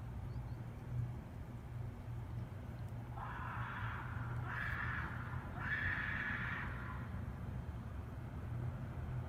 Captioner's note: distant screaming